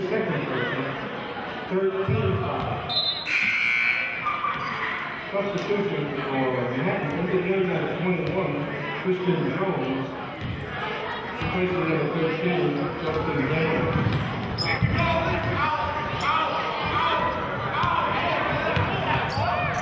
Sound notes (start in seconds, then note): 2.9 whistling and buzzer sounding; 17.6 yelling